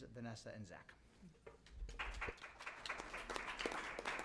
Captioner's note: applause